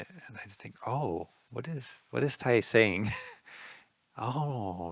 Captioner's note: laughing